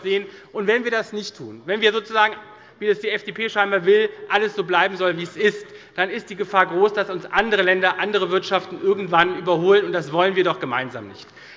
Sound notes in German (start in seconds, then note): none